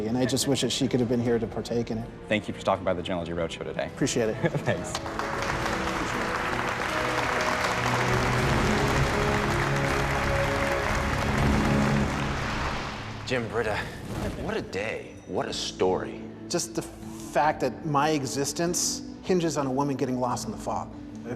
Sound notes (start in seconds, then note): 5.5 applause